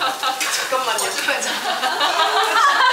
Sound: booing in disagreement

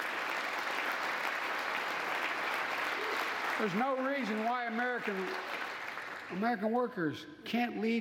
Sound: applause

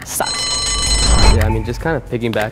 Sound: bell ringing

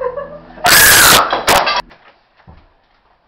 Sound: very loud scream; LOUD scream incoming

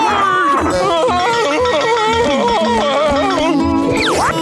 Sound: laughing

